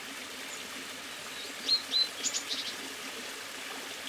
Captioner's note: birds sing